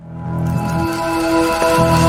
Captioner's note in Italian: Applauso